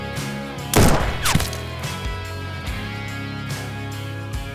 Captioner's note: gunshot banging